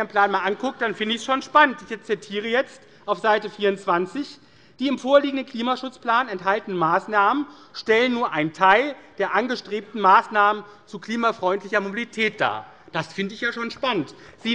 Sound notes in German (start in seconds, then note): none